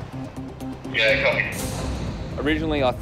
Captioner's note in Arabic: راديو